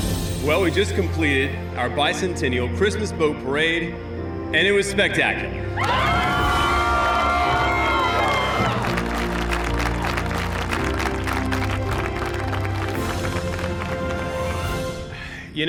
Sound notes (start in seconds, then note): 5.7 cheering, applause